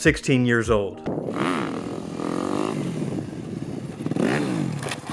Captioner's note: motorcycle revving